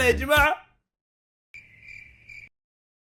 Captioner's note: insects trilling